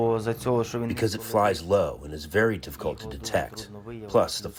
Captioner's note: through translator